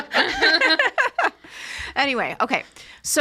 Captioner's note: all laughing